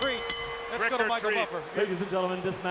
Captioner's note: bell ringing